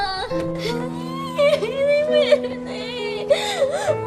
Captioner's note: Lia sobbing